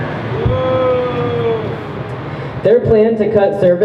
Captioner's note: crowd boos